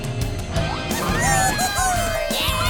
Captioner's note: squeaking